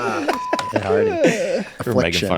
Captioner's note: group laughs